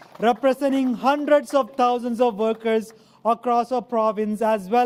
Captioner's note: applause